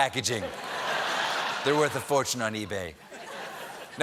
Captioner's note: laughter